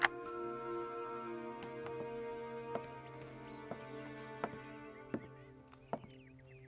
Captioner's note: soft mysterious music; machine beeping